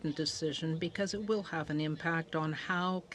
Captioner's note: speaking French